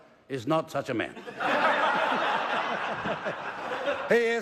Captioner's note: laughter